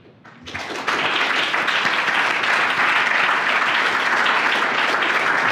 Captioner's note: applause